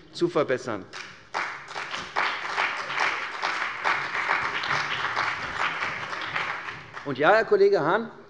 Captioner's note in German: Beifall bei der CDU und dem BÜNDNIS 90/DIE GRÜNEN